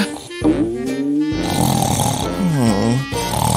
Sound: still snoring

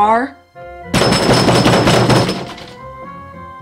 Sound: knocking

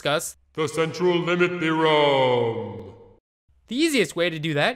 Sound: booming voice

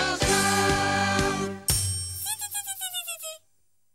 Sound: buzzes; ding

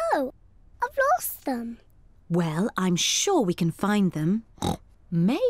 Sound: oinks

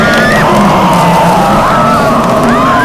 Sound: ghastly voice

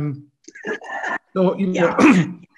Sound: laughs

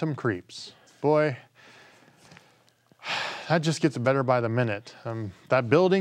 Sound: sighs

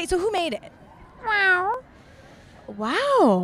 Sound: meowing

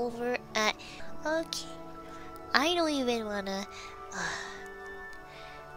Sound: sigh

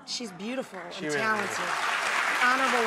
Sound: audience applause

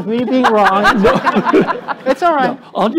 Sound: laughter

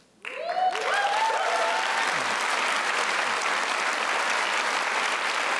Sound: applause

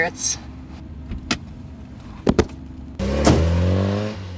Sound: body slams; door clicks; engine revs

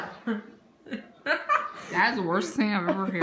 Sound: laughter

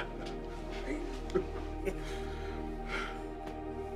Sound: laughs; chuckles

